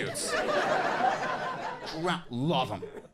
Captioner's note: audience laughing